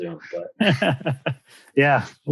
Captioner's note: laughs